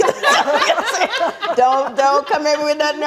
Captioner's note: audience laughing